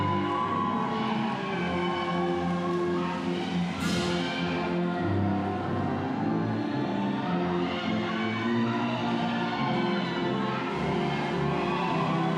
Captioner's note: cheering